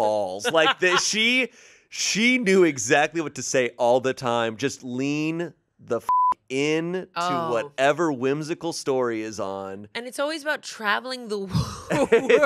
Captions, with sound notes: She knew exactly what to say all the time. Just lean the (beep) in to whatever whimsical story is on. - And it's always about traveling the world.